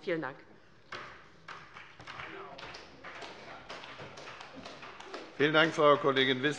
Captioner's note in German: Beifall bei der LINKEN